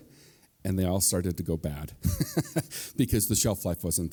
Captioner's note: laughs